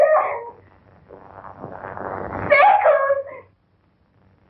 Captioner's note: groaning